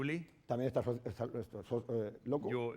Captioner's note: speaking spanish